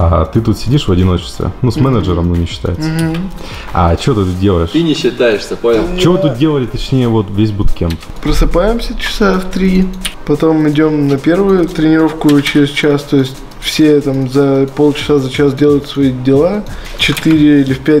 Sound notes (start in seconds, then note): 4.6 manager replies angrily